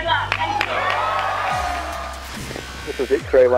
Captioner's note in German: Menge jubelt